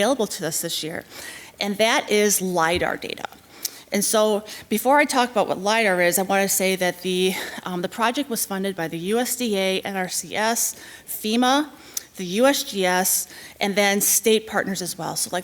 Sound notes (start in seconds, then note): none